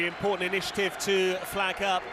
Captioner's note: applause